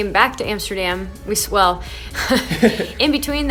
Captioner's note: laughs